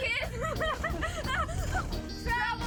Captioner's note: kids laughing